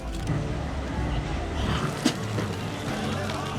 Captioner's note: spits